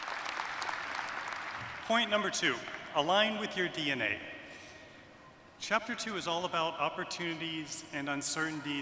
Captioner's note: aplause